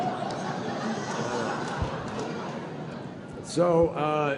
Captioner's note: laughter